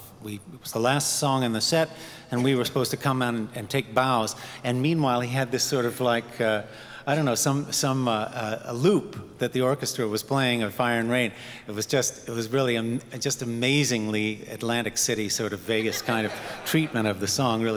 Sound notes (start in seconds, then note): 15.7 audience laughing